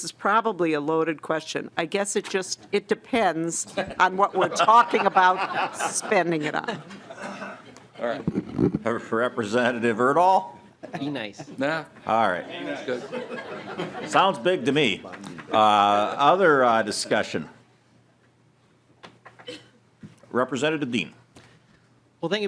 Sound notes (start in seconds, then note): 15.2 laughing